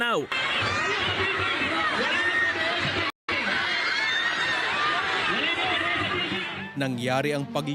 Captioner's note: people screaming in terror